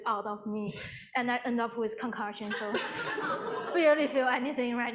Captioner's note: audience laughing